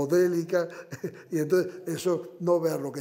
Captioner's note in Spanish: Ríe